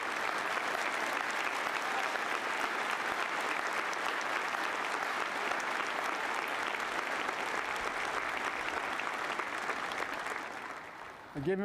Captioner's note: applause